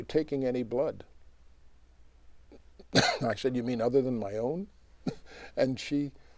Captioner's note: coughs; laughs